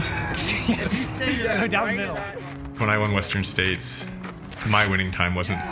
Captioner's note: laughter